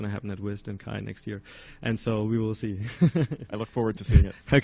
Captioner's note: laughs